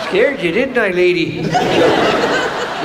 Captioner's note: audience laughs